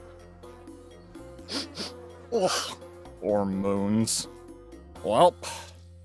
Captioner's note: sniffs in Disgust